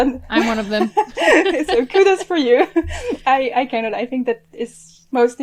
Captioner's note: both laugh